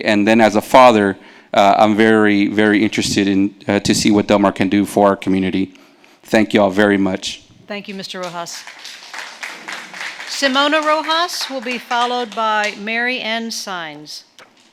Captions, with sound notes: And then as a father, I'm very, very interested in, to see what Del Mar can do for our community. Thank y'all very much. - Thank you, Mr. Rojas. (audience clapping) Simona Rojas will be followed by Mary Ann Saenz.